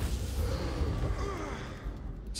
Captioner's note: gasps